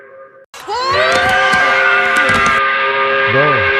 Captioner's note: angry scream